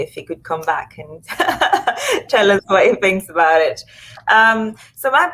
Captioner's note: laughs